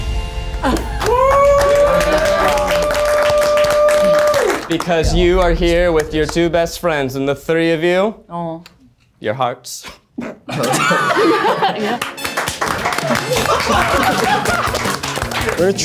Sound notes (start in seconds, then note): 0.6 audience cheers; 10.7 audience laughs; 13.2 audience applauds; 13.2 upbeat music